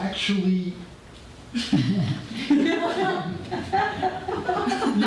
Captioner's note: audience laughter